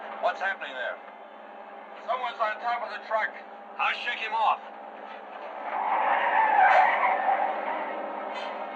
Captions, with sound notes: What's happening there? - Someone's on top of the truck - I'll shake him off! [tires screeching]